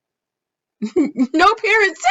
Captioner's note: chuckles